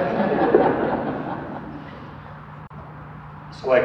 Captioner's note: audience laughter